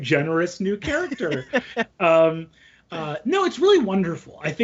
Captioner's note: laughing